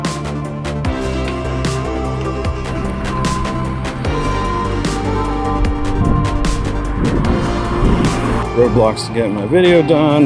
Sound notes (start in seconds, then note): 0.0 upbeat retro electronic music; 2.6 construction and traffic sounds